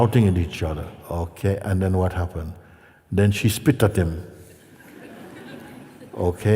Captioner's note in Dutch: gelach